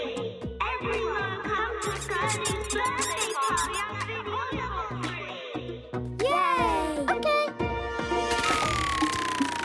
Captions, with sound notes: Everyone, come to Gurdy's birthday party at the Olobob tree! (cheering)